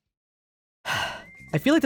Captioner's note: sigh